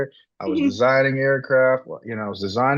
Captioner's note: laughs